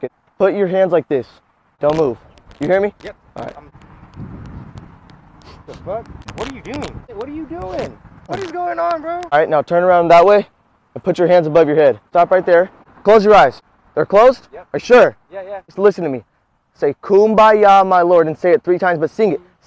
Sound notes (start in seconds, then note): 5.4 sniffs